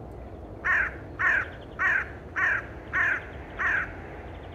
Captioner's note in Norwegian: Kråkelyder